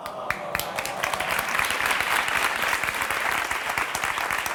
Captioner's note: crowd applauding